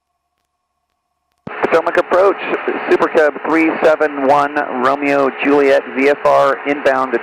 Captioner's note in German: über Frequenz der Flugsicherung